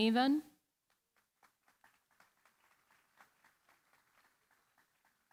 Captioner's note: applause